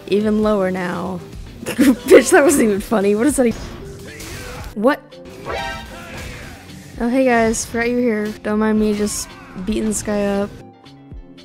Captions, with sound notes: Even lower now. [laughs] B****, that wasn't even funny, what does that even- What?! Oh, hey, guys, forgot you were here. Don't mind me just beating this guy up.